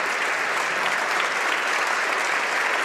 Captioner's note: applause